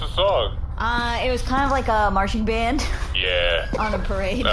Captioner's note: breaks down laughing